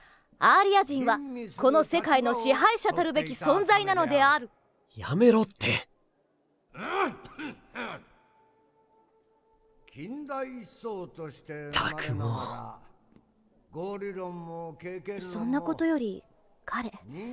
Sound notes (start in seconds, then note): 7.0 teacher: Clears throat and continues